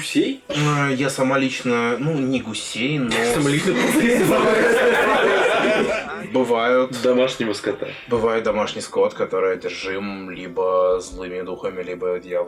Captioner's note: the table laughs